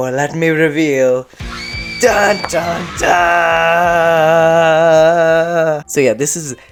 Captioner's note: scream, rock music